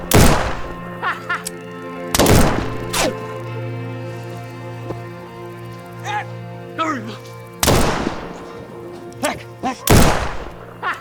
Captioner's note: laughter